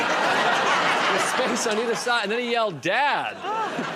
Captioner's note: laughter